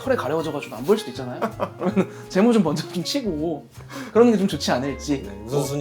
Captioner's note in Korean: 웃음